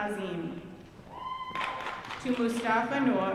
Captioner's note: audience cheering